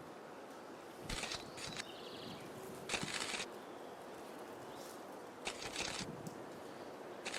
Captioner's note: camera shutters